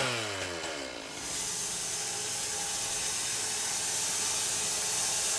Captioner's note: blade sawing